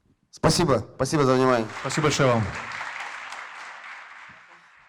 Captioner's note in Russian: аплодисменты